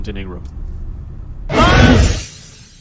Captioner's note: screaming